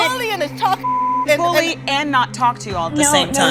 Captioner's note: beep